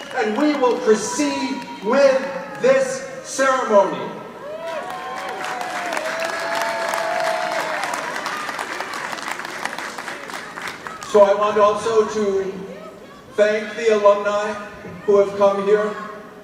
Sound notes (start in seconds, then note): 4.5 audience applauding